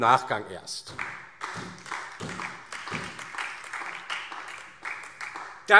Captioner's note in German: Beifall DIE LINKE und vereinzelt SPD